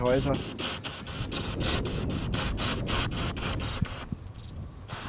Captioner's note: radio noise from the spirit box